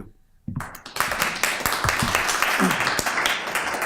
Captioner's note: applause